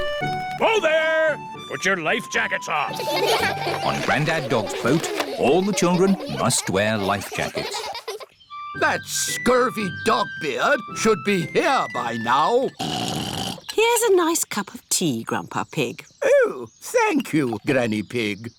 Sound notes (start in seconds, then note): 2.9 all giggle; 12.7 oinks